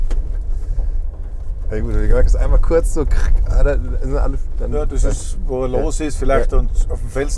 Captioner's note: crrrck